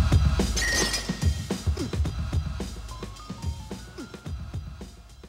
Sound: glass clattering

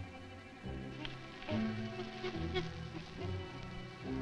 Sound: Ramona chittering

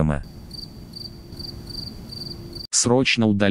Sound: cricket sound

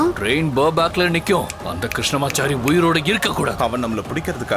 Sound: snaps finger

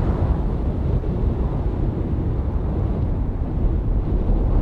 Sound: strong winds blowing

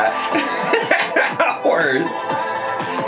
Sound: laughing

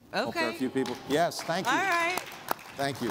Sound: applause

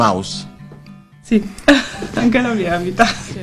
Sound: giggles

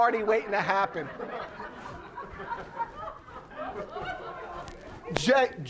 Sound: audience laughing

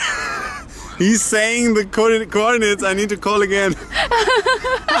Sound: laughter

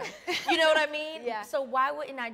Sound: laugh

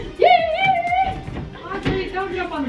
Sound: shouts

